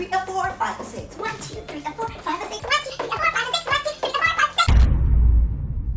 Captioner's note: counting speeding up